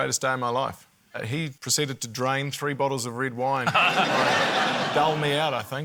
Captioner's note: laughter